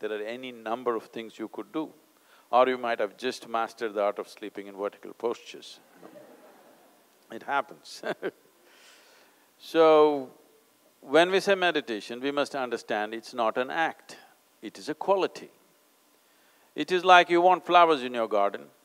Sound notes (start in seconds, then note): 5.9 laughs; 5.9 laughter